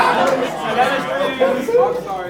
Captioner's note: laughs